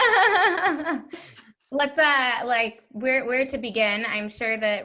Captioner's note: laughs